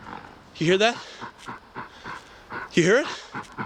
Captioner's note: animal breathing heavily